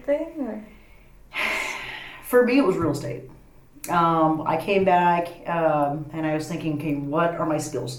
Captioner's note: sighs